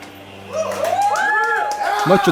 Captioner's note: crowd cheering